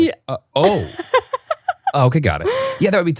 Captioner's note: laughing